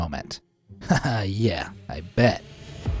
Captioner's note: narrator laughs